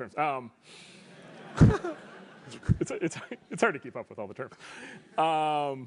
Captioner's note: laugh